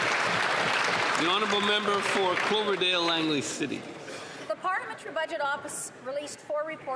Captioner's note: applause